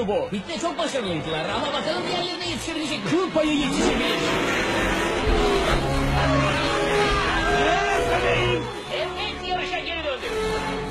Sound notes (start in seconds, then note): 5.2 shouts